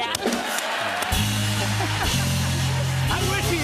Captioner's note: cheers and applause